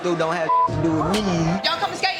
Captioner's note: beep